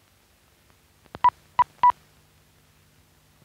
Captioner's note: beeping